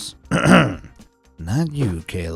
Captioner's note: clears throat